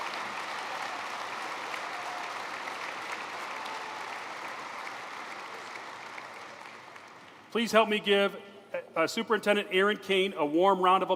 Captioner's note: applause